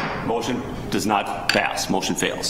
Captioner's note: gavel bangs